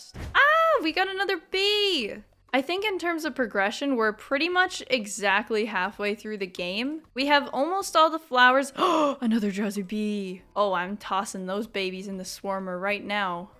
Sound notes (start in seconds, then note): 8.8 gasp